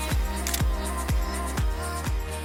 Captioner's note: camera clicks; upbeat music